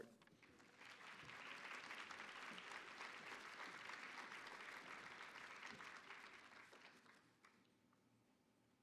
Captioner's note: applause